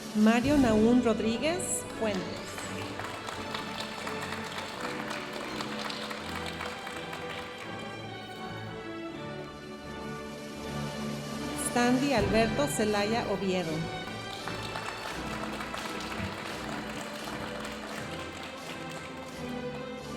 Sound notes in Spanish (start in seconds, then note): 1.8 aplausos de la audiencia; 8.8 continúa la música majestuosa suave en el fondo; 13.9 aplausos de la audiencia; 19.8 continúa la música majestuosa suave en el fondo